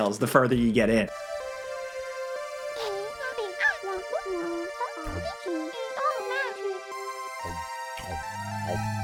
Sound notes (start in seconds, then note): 1.2 mystical music; 2.8 Einstein chattering